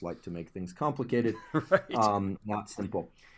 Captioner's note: laugh